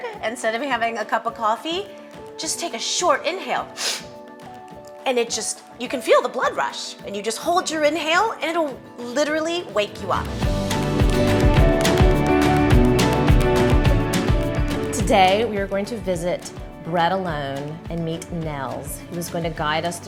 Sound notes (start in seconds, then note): 3.8 inhales; 10.5 upbeat music